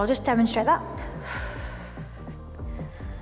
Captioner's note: exhales